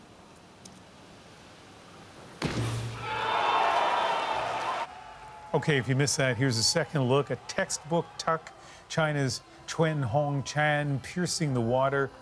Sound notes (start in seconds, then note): 7.4 cheers and applause